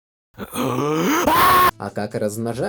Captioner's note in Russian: Толпа тоадов атакует Марио, а тот орёт